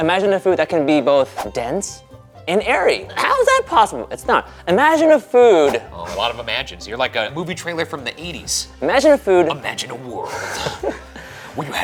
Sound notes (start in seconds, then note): 5.6 graphic whooshing; 10.3 laughing